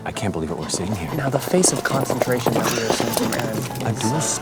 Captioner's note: jostling loudly in his pretty spin; george, making horse noises that sound curiously like an old basset hound